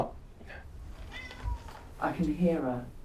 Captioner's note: Nutty meows